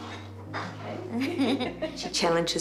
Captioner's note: both laugh